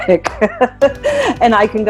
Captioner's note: laughs